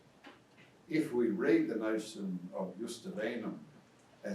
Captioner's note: speaks in foreign language